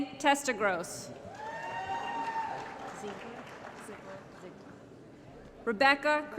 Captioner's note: applause & Cheering